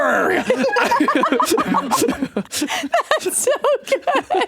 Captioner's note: both laugh